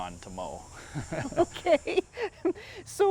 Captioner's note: laughs